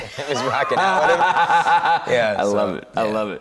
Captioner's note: laughing